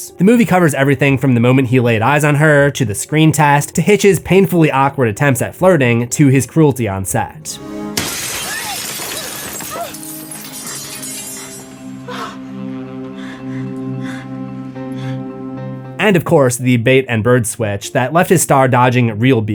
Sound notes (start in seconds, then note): 7.8 panting; 7.9 glass shatters